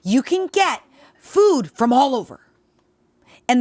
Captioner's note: none